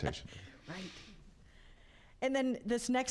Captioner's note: laughing